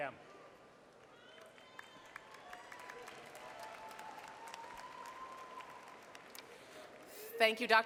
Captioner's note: applause